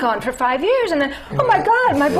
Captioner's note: laughter